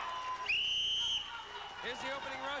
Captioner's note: cheers and applause; whistle blows